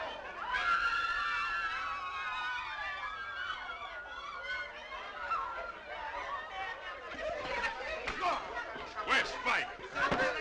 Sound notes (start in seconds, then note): 5.1 crowd chattering